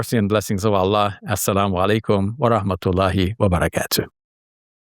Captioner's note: speaks in Arabic